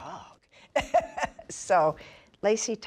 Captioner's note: laughs